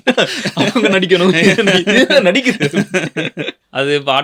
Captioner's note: laughter